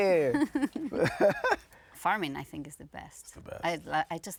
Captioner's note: laughing